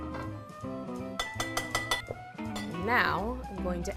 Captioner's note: spoon tapping